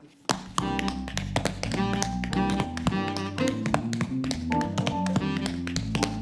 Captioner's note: tapping; jazz music